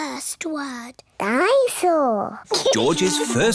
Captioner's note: giggles